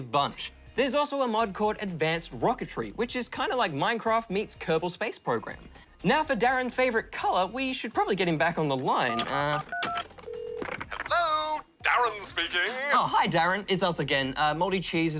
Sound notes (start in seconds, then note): 9.1 dials